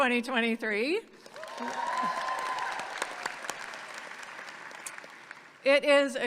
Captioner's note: audience clapping and cheering